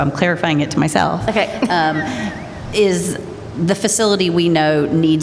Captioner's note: laughter